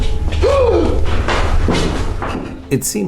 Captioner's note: gasping